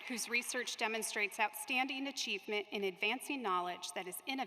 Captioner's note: applause